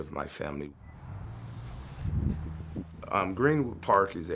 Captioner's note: wind howling